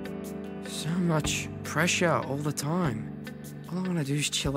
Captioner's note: voiceover